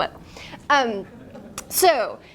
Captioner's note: students laugh